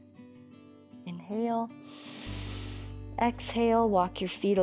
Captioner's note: inhales